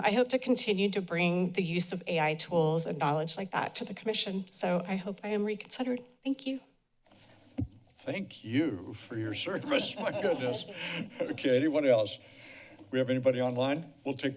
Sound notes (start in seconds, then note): 9.4 chuckles